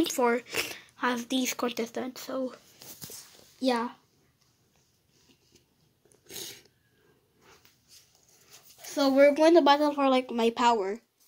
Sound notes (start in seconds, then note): 4.3 silence